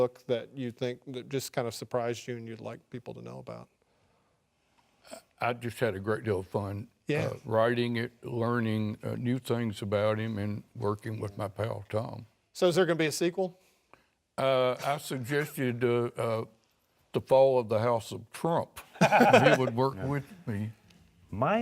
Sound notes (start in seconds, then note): 19.0 laughing